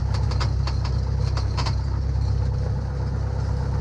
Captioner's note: plane humming